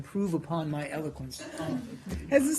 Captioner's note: laughter